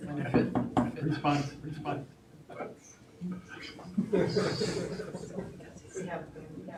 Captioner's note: chattering; chattering